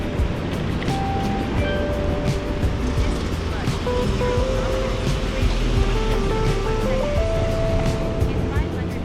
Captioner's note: wind Blowing